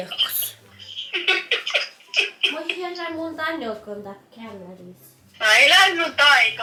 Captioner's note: laughs